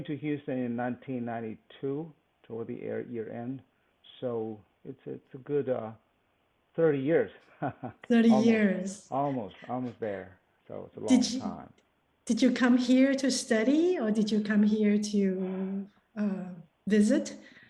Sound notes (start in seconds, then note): 6.6 laughs